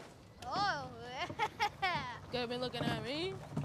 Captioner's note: laughing